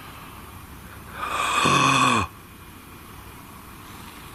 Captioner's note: long inhale